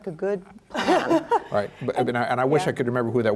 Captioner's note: laughter